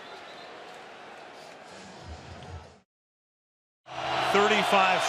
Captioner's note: whistle